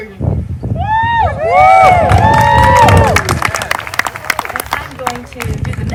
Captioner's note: applause